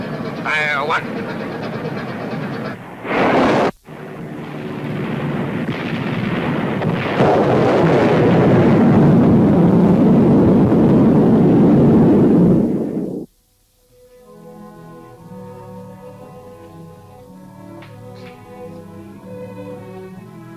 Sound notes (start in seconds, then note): 3.0 torpedo whooshing; 7.5 explosion booming; 14.3 dramatic music